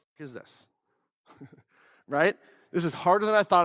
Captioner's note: laughs